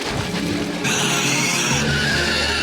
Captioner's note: shrieking